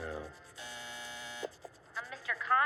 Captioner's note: intercom buzzes